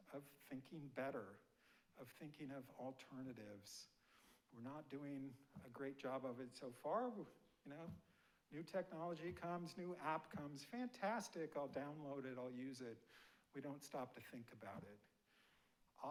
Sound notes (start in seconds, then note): none